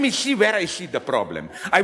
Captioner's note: audience laughs